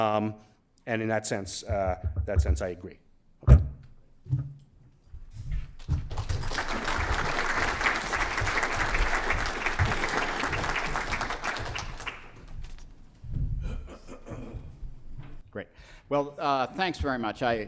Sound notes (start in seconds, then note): 3.3 applause